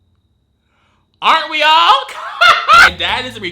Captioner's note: laughs